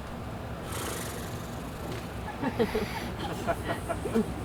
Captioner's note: Puck flutters lips